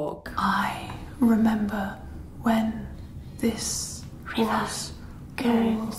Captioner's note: whispering